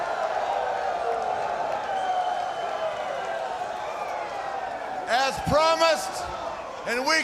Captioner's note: crowd cheering